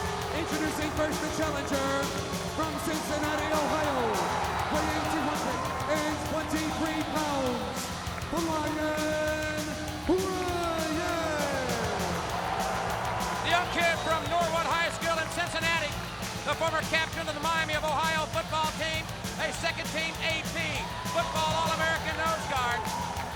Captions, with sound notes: Introducing first, the challenger from Cincinnati, Ohio, weighing 223 pounds, Flyin' Brian. (upbeat music) (audience cheering) The young kid from Norwood High School in Cincinnati, the former captain of the Miami of Ohio Football Team, a second team AP, football All American nose guard.